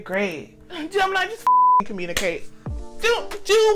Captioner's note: beep